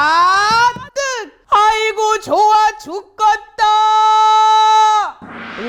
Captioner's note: strong Voice